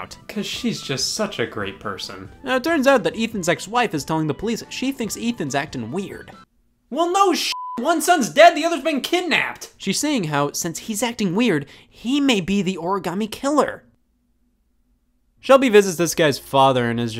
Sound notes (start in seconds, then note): 7.5 beep